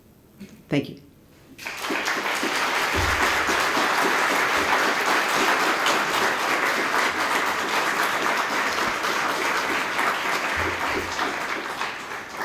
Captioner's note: applause